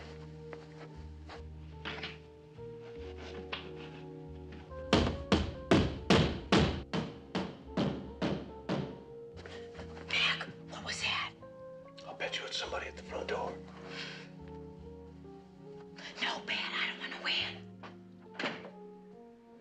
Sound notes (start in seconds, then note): 7.3 Kapıya vuruyor; 10.3 fısıldayan